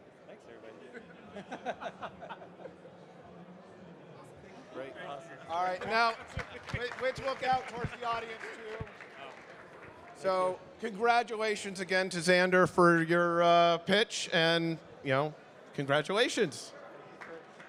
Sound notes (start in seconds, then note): 1.1 panelists laughing; 5.6 audience clapping